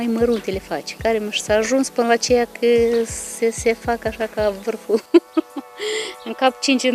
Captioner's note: laughing